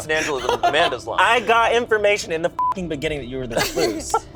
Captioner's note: laughs; beep